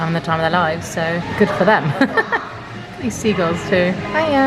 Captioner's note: chuckles